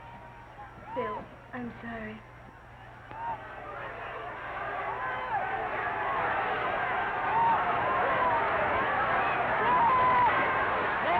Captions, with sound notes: - Phillip, I'm sorry. (cheering)